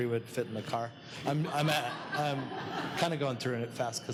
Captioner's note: laughing